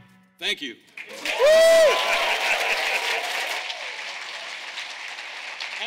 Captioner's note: audience applauding